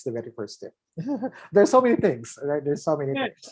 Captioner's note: laughs